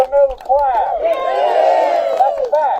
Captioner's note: applause